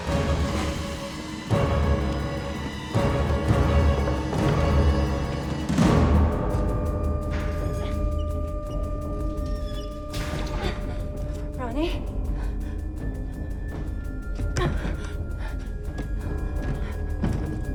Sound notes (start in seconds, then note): 0.1 tense dramatic music; 7.4 escape hatch squeaking; 14.5 Bryn huffing